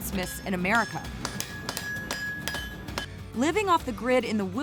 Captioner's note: clanking